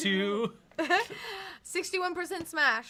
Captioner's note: giggles